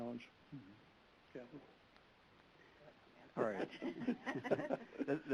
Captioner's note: laughing